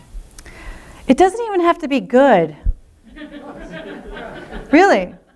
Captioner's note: laughter